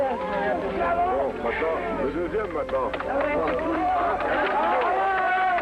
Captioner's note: murmurs; claps